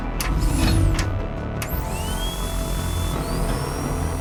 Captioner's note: intense music; machine whirs